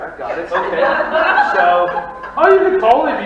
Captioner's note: audience laughing